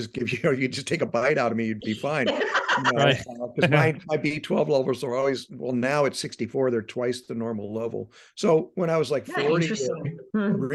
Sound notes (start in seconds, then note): 1.9 laughing